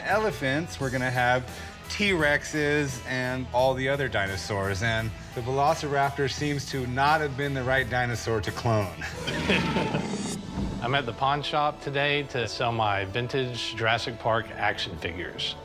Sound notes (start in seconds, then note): 9.0 chuckles; 9.1 dinosaur roar